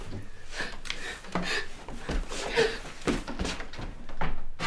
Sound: Elizabeth gasps

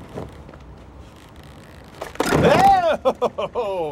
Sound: laughs

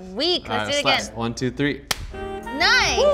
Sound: gloves snap

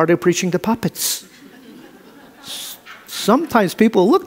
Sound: audience laughs

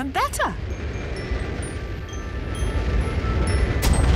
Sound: rocket thrusting

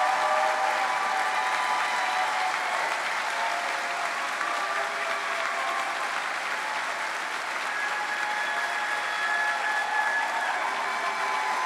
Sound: cheering

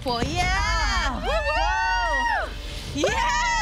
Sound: both cheering

